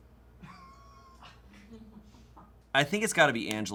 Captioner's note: crew laughs